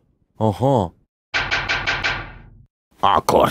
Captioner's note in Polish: pukanie do drzwi